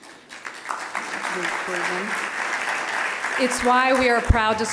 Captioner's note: applause